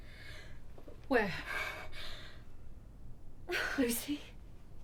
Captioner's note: Lucy panting